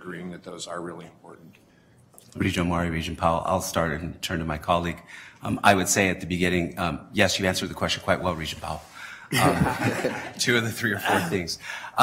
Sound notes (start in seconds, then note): 9.3 laughter